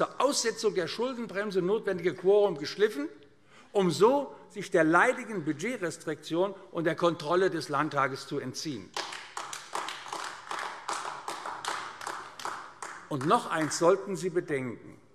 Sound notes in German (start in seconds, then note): 8.9 Beifall AfD